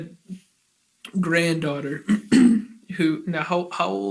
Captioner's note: clears throat